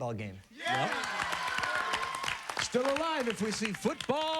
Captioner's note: applause